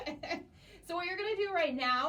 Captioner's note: chuckles